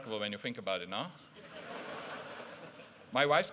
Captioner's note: laughter